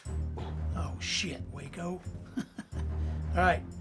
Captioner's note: chuckles